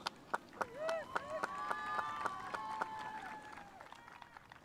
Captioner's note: spectators applauding